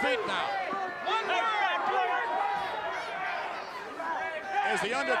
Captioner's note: crowd chattering continues